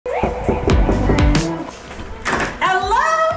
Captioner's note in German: an der Tür klopfen